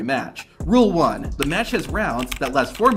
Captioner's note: keyboard clattering